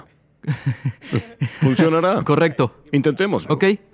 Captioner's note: risas